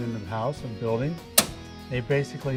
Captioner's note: breaker switch clicking